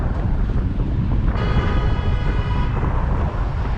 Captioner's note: white car honks at black Prius